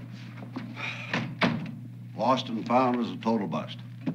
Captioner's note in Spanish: Suspiro